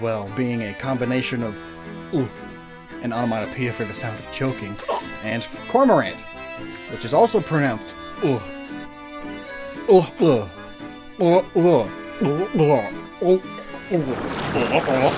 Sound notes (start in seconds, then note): 1.6 gulp noise; 8.4 gulping noise; 10.2 two questioning gulping noises together, followed by multiple gulping noises